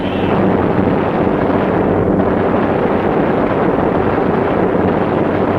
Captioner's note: gunfire sounding